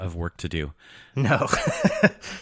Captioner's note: laughs